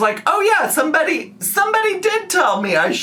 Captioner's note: none